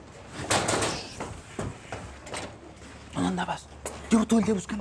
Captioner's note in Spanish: Toques en la puerta